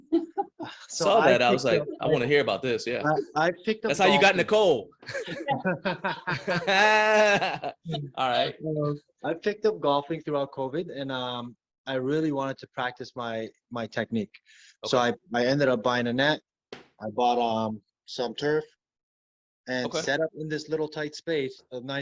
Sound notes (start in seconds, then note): 0.0 laughing; 7.2 laughing